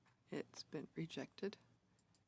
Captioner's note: speaking French